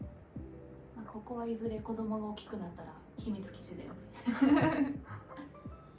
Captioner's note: laughs